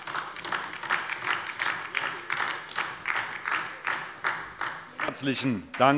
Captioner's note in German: Beifall DIE LINKE